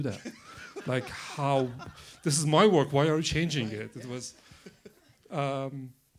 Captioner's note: laughter